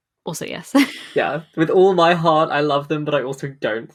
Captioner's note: laughing; laughs